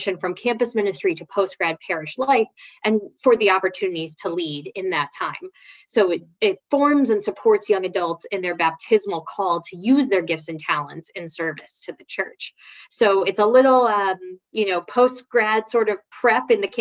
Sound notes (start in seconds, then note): none